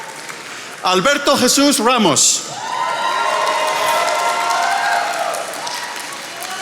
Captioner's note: attendees applauding